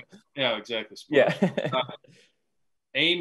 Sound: laughing

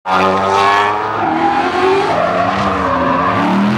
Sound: car engines roaring

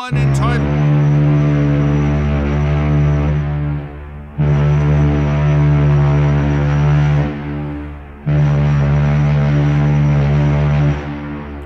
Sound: loud ships horn

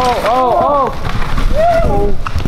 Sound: crowd

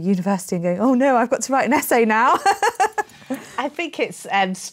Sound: laughs

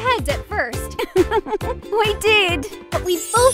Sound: laughs

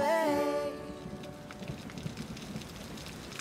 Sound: thunder rumbling

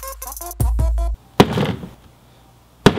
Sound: digital music; hammer banging

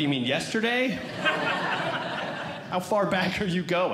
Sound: audience Laughing

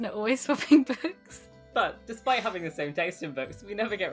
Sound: laughing

